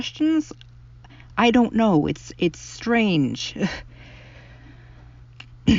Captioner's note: laugh